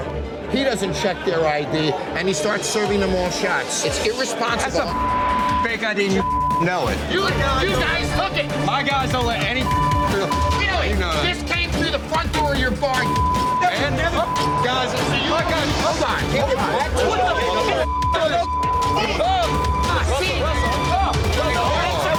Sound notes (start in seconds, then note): 13.7 arguing; 17.0 arguing